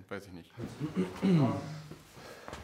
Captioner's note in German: Räuspern